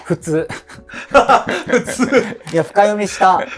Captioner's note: laughing